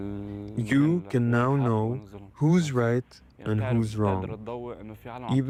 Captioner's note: speaking alternate language